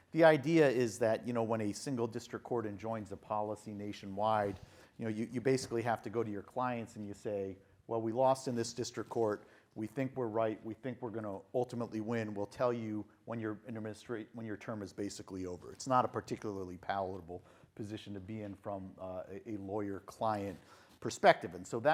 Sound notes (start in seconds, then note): none